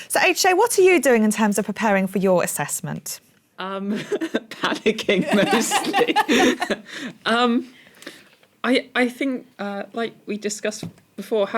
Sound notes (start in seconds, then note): 4.6 laughing; 5.7 laughter